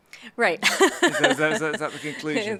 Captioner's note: laughs